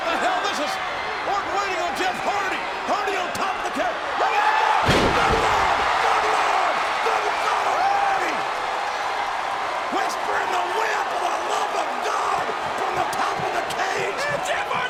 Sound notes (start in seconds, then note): 4.8 bodies thud; 6.0 audience cheering